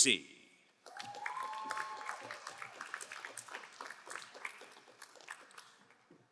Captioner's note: crowd cheering and applauding